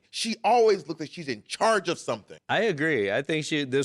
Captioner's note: none